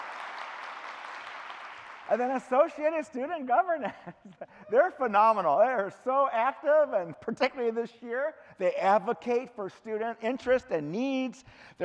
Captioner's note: clapping